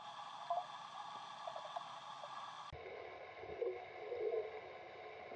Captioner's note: faint trolling motor noises